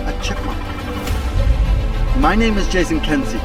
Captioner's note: chipmunk chirping